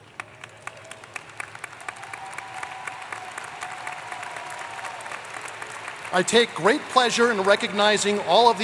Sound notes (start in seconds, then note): 0.0 applause